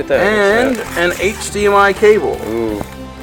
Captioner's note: voiceover